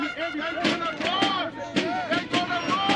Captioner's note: screams in Spanish